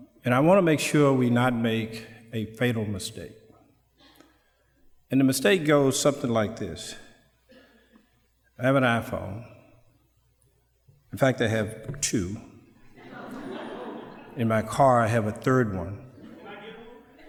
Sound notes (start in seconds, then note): 12.8 background sound, laughter; 12.9 laughter